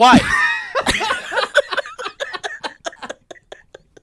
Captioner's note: laughing